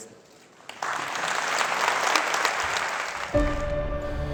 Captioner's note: applause